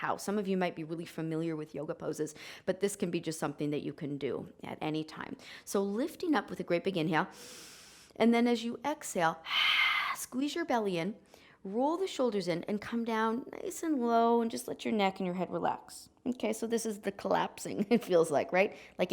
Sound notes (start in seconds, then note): 7.3 exhaling; 7.4 inhaling